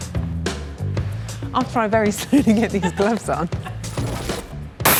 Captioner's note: laughs